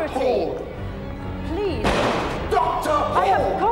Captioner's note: kick thudding